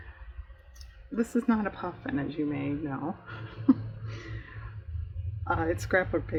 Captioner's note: laughs